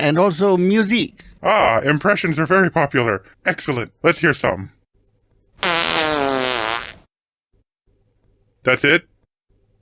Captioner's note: fart